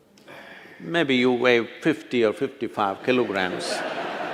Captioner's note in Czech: smích